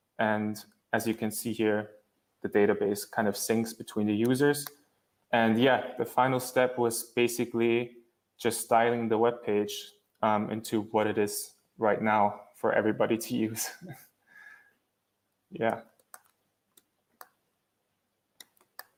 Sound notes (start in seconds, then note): 13.6 laughs